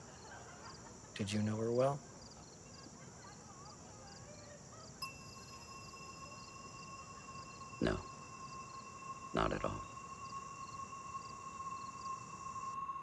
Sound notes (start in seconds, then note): 5.0 glasses clinking